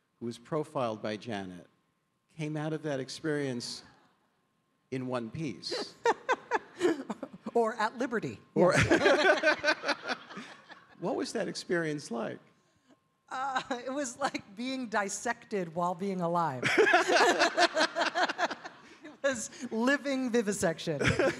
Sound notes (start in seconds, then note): 5.7 Rachel laughing; 8.7 David and Rachel laughing; 16.6 audience laughing